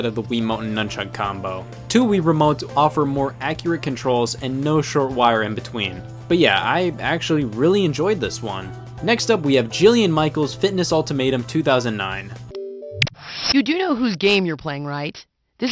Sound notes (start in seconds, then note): 12.2 game noises